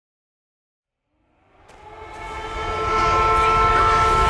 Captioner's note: siren ringing